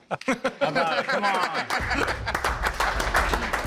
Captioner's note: applause